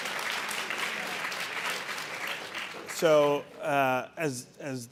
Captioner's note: audience applauding